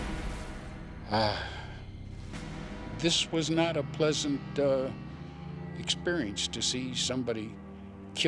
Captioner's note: sighs